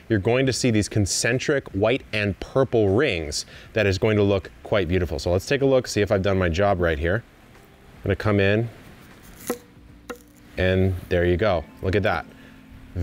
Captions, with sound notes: you're going to see these concentric white and purple rings. That is going to look quite beautiful. So let's take a look, see if I've done my job right here. I'm gonna come in, (knife cuts) and there you go. Look at that.